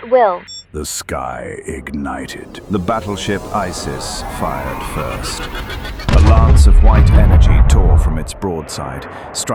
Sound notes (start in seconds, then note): 6.0 weapons firing